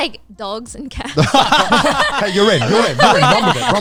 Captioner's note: everyone laughing